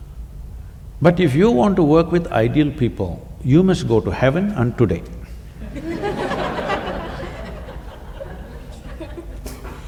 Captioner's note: laughter